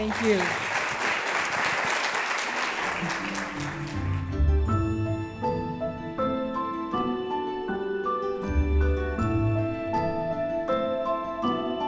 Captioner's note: applause and Music